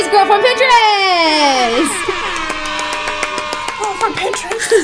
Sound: cheering

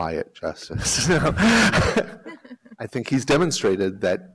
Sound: laughter

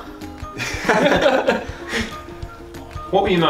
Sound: all laugh

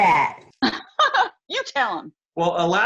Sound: laughter

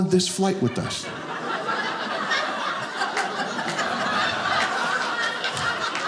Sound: audience laughing

